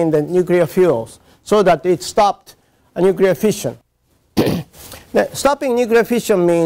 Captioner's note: cough